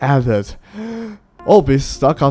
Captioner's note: takes deep breath